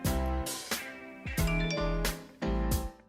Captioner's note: phone chimes